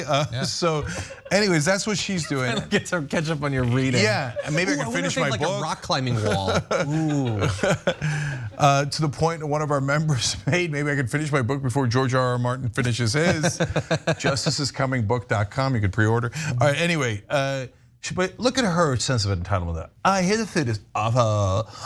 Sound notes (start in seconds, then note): 2.0 laugh; 6.0 laugh; 13.5 laugh